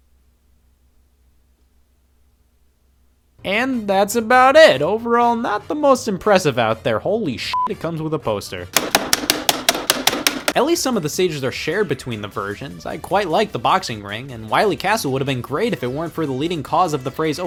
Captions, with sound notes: And that's about it. Overall, not the most impressive out there, holy (beep), it comes with a poster. At least some of the stages are between the versions. I quite like the boxing ring and Wiley castle would have been great if it weren't for the leading cause of the phrase,